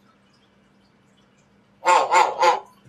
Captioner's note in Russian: Григорий лает